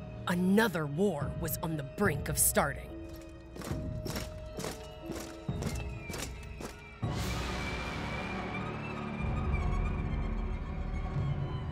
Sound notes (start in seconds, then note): 3.0 marching